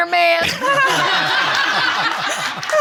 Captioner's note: all laughing